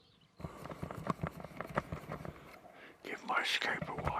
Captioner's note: camera rattling